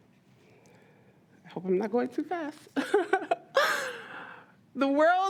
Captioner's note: laughs